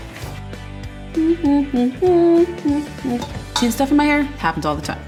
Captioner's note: humming